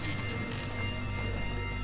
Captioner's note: chair creaks